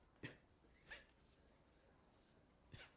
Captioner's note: coughing